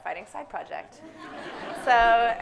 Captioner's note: audience laughs